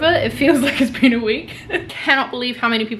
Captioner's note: laughing